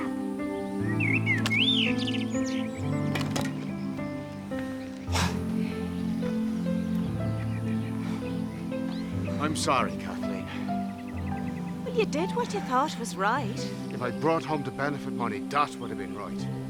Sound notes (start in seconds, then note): 0.2 birds chirping; 5.0 sighing; 7.3 soft music